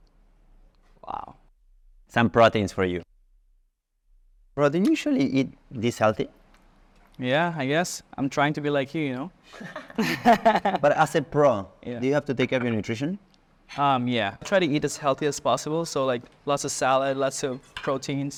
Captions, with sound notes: Some proteins for you. - Well, do you usually eat this healthy? - Yeah. I guess. I'm trying to be like you, you know? (laughs) - But as a pro, do you have to take every nutrition? - Yeah. I try to eat as healthy as possible. So like, lots of salad, lots of proteins.